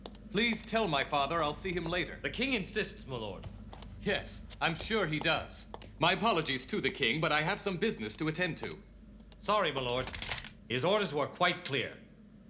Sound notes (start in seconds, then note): none